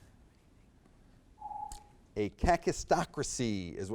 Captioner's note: timer beeps